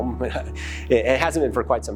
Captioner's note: laughs